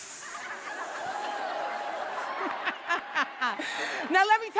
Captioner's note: laughing